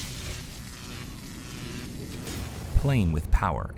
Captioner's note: electric surging